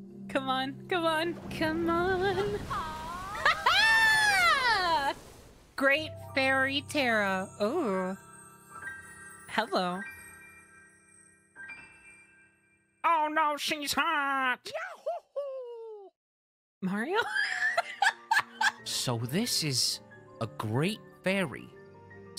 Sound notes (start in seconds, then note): 2.7 excited Yelling; 9.4 flirtatiously; 12.9 Squidward Voice; 17.1 laughter